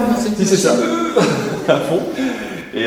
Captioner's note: laugh